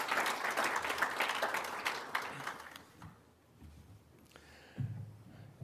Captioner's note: applause